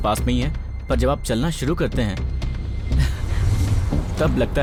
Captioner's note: laughs